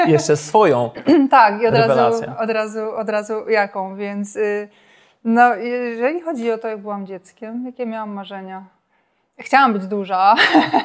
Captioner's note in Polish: śmiech